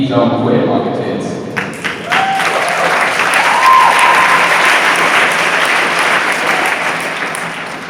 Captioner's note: cheers